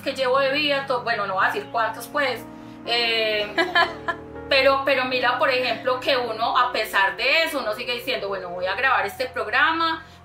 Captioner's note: laughs